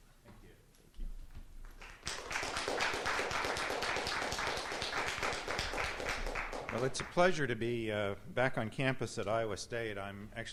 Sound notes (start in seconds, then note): 1.7 applause